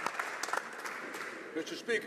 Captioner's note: some Applause